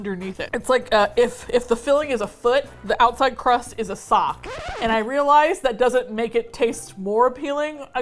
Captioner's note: record scratch